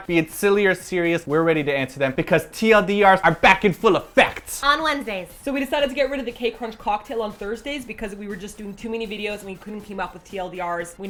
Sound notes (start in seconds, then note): 4.8 baby voice